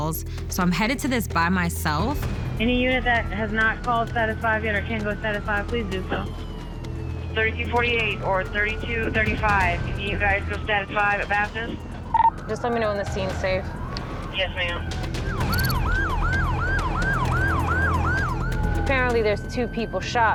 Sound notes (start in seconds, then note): 15.1 siren wails; 15.1 tense music plays